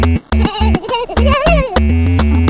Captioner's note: trollface quest laugh